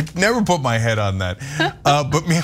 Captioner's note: laugh